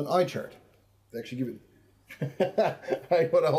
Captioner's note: laughs